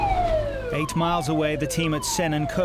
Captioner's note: tense music; alarm blaring